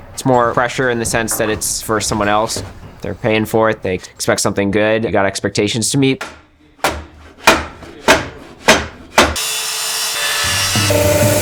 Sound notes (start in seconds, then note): 7.4 percussive noise of wood against metal; 9.3 noisy saw blade through wood